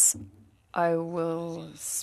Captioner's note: speaking French